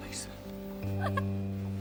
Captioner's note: laughs